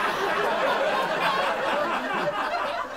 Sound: laughter continues

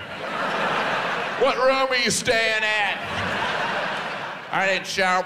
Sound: audience laughs

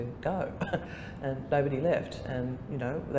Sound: laughter

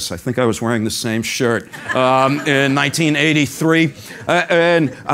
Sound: laugh

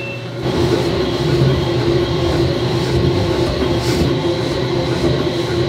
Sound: machine continues whirring; machine whirring and beeping

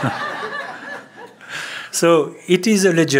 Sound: laughter

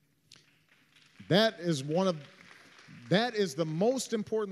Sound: applause

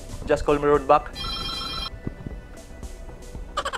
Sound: phone Rings

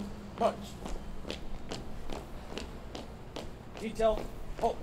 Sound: footsteps echo

